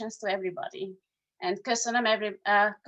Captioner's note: speaking in foreign language